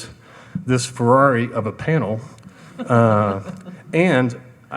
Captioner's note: laughing